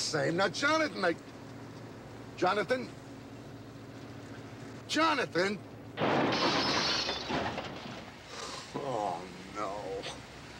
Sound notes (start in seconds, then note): 5.9 brakes screech, metal crunches; 8.3 sighs